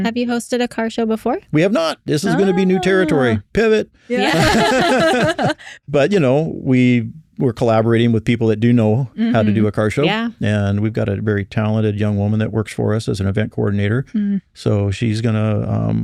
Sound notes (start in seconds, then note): 4.2 laughter